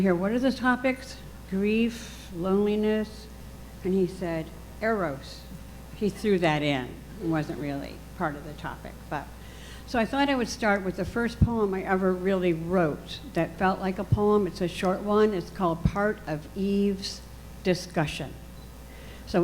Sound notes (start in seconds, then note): none